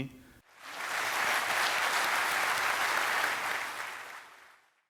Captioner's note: audience applauding